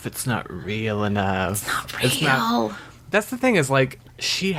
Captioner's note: whispers